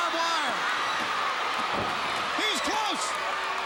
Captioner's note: crowd cheering